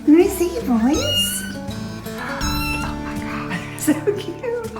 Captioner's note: cat meows